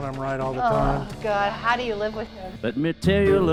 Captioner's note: scoffs